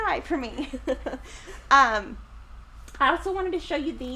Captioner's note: chuckles